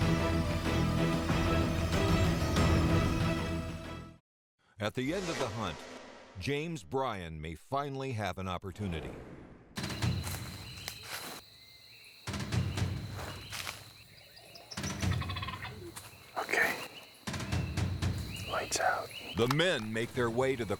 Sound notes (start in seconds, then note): 14.0 turkey calls